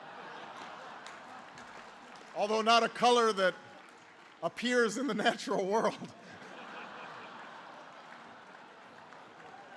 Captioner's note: laughter